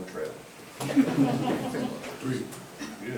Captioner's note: group laughing